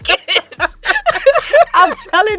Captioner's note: both laughing